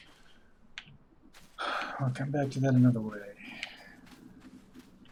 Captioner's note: sighs